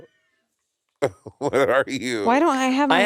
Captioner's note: Monét laughing